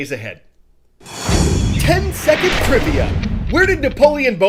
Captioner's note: voice-over